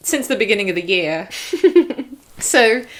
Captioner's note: giggle